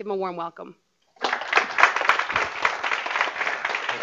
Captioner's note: applause